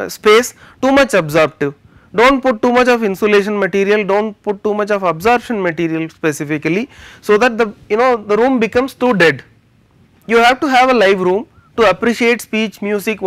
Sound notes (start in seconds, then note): 5.8 air conditioning